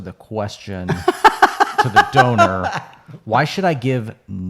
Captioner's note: laughing